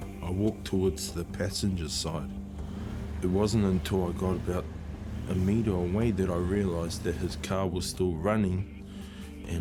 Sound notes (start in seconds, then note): 0.0 ominous music; 2.3 engine revving